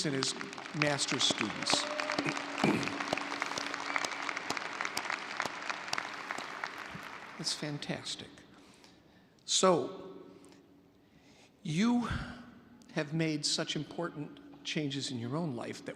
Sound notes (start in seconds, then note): 2.0 audience applauding